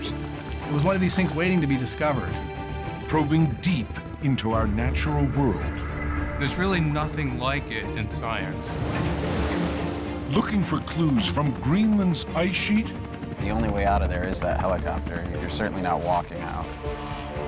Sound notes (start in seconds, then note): 8.1 wave crashes